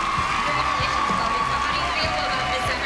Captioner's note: cheering and applause